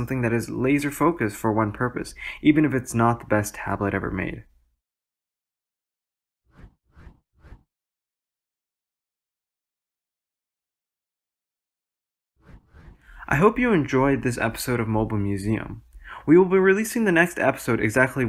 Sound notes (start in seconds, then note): 6.6 transition swooshes